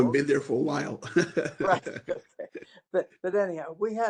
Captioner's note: laughter